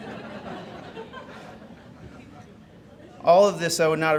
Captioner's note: audience giggles